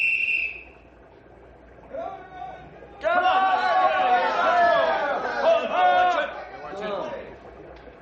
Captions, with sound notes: (WHISTLES) Come on! Come on! (ALL CHEER) Watch it!